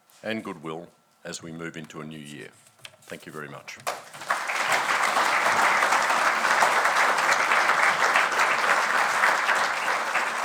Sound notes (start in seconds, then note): 3.9 audience applauding